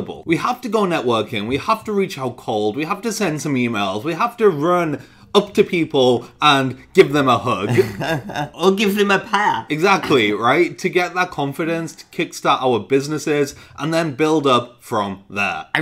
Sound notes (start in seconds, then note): 7.5 laughing